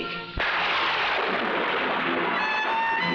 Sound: thunder crashing

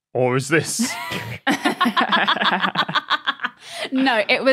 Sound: laugh

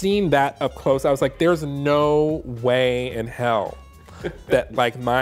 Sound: laughs

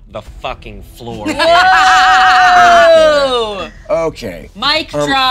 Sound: laughing

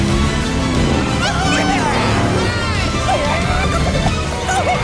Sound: all cheering

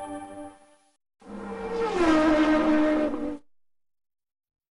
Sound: 16-bit race car sounds

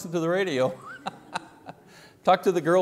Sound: laughing

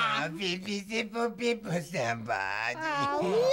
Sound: speaking gibberish

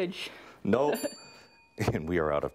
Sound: dings

